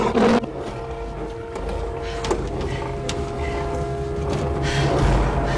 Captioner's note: Roaring Continues